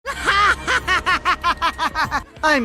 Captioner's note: crazy laugh